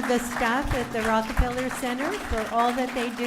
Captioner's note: audience applauding